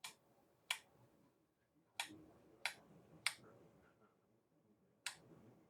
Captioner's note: clicking